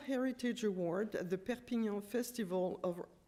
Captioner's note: french